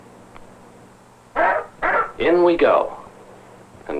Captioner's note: barking